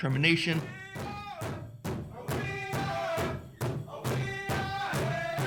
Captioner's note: chanting in foreign language